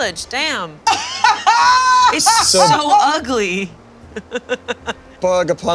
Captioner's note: laughing